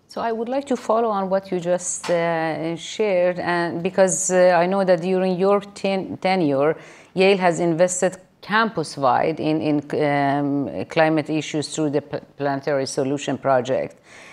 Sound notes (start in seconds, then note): none